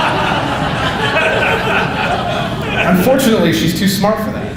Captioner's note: audience laughing